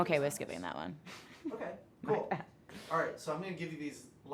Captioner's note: laughs